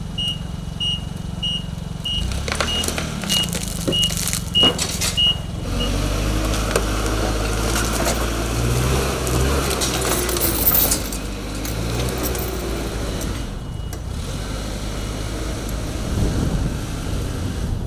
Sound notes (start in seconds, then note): 6.2 fork truck motor revving; 10.3 chain rattling